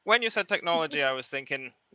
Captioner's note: laughs